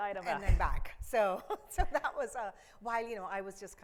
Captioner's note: chuckles